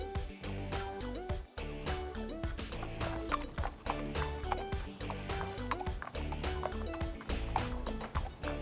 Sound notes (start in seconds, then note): 2.4 horses trotting